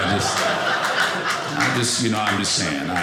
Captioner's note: audience laughing